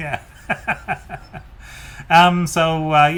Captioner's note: laughs